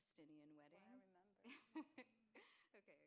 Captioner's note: laughs